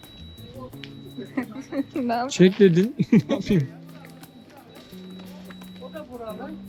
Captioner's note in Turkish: kahkaha